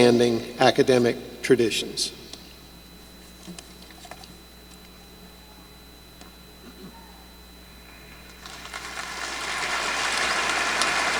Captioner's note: applause